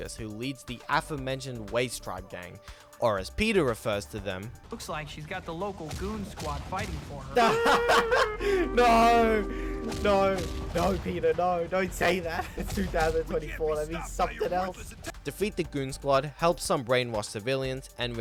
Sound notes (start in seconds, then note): 7.4 laughs